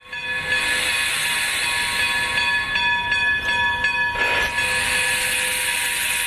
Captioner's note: steam hissing; bell dinging